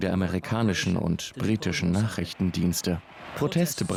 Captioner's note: speaking in a foreign language